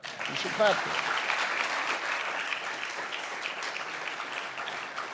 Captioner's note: audience applauding